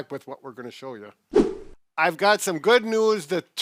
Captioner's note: swipe sound effect